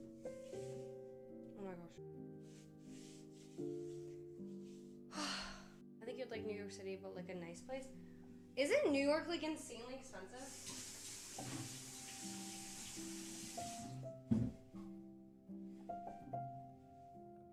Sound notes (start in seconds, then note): 2.0 sighs; 2.0 soft Music; 11.0 soft Music